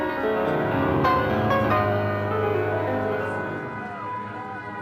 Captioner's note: sirens wailing